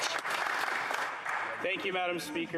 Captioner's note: some Applause